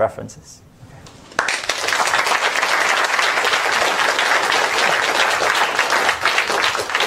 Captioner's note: applause